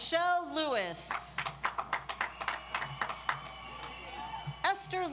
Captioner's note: audience applauds